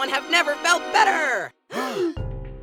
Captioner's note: all gasp